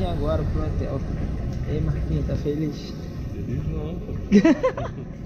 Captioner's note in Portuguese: risos